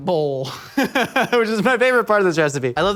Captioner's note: laughing